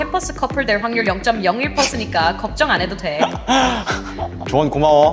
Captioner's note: breathing rudeness